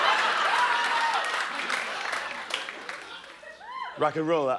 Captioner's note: cheers and applause